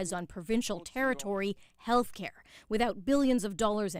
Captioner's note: speaking French